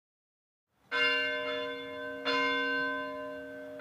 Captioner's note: bell ringing